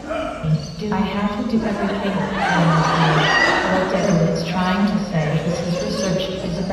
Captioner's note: loud audience laughter